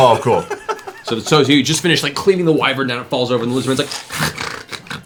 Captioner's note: snarls